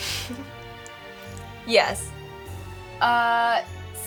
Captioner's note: giggles